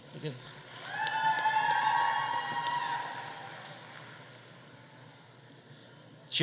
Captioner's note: audience applauding; audience cheering